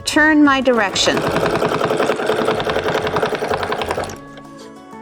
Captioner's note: machine whirring; peaceful guitar music